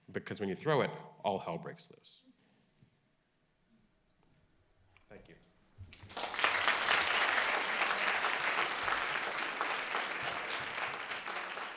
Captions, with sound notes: because when you throw it, all hell breaks lose. Thank you. (audience clapping)